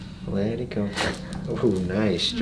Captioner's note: crack